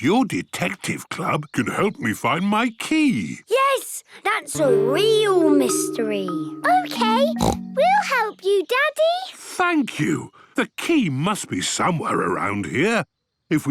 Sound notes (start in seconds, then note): 7.2 snorts